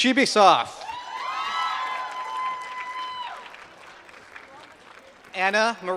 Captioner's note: applause